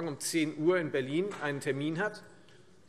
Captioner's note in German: none